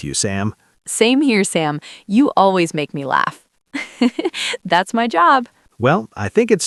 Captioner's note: laughs